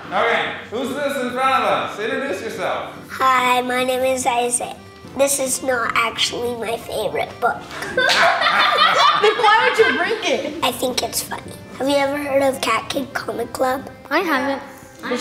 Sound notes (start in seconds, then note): 7.7 laughter